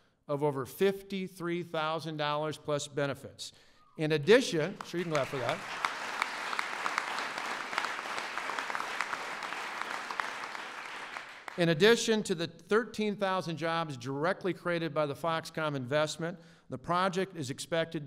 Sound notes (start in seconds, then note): 9.6 applause